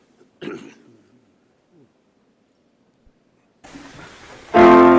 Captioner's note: speaker clears throat